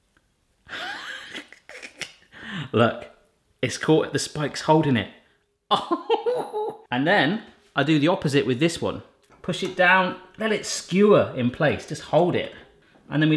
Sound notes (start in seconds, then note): 0.7 wheezing laugh; 5.8 laughing